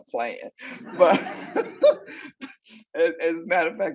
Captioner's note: audience laughing